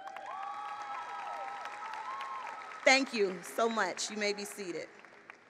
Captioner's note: applause